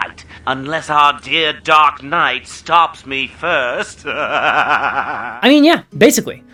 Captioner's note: laughs